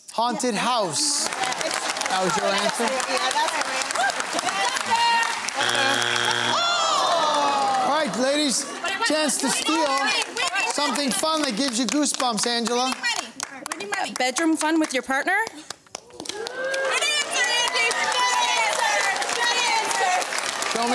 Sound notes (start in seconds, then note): 5.5 buzzer sounds; 10.1 family clamouring; 15.8 crowd oohs